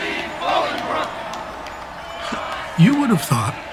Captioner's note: crowd chanting: God save thee, Bolingbroke!; crowd cheering